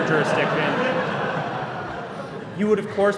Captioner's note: laughter